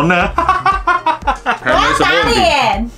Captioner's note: laughter